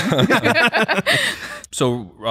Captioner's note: laughter